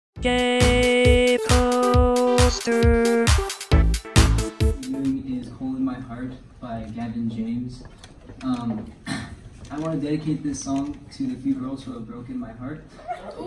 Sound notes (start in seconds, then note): 9.0 coughs; 13.2 audience exclaims